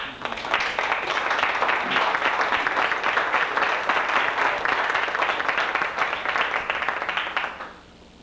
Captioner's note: applause